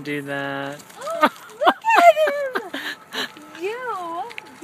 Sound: laughter

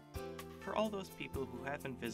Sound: voiceover

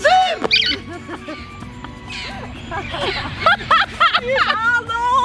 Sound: bird chirps; all laughing

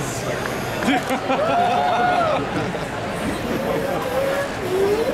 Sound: audience cheering; audience laughing

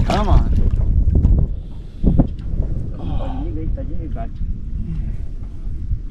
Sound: fish splashing

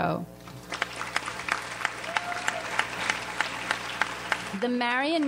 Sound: audience applauds

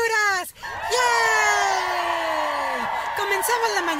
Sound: cheering

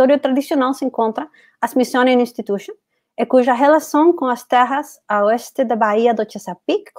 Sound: speaks portuguese

